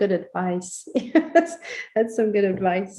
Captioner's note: laughs